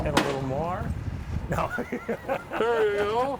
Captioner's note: laughing